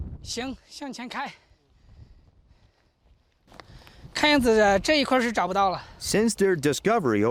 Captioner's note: speaking Chinese